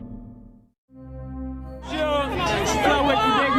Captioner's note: fans chattering